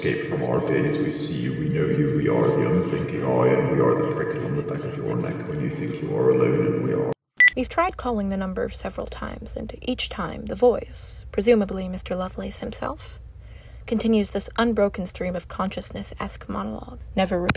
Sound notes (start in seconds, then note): 7.1 normal narrator's voice; 7.4 electronic beep